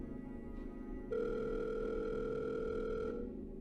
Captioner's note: phone ringing